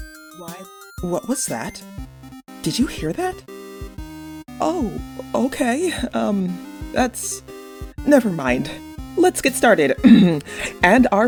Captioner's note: clears throat